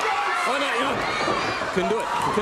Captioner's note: crowd cheering